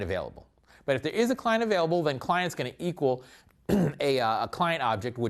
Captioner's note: cough